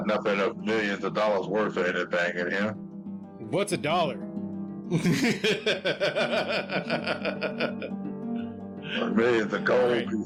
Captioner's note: laughter